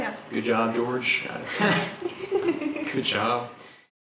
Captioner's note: laughs